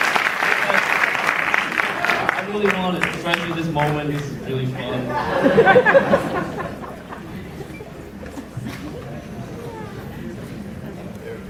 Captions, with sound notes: I really wanna treasure this moment, this is really fun. (audience laughter)